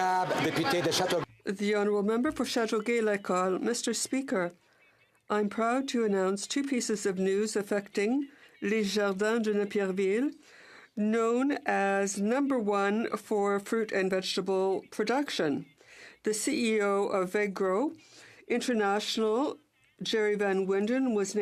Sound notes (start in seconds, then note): 0.0 some Applause; 14.4 speaking French